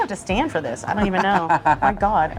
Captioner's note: laughing